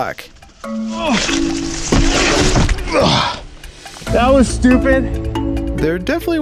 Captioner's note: grunts on impact